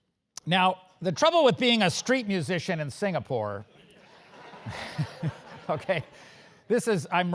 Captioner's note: laugh